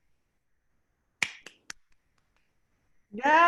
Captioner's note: claps hands